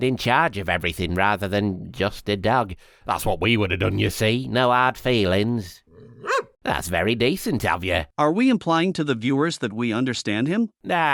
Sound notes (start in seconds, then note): 6.0 woof